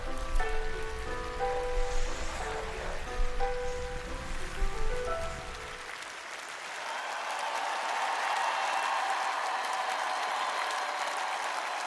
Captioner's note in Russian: ликование; аплодисменты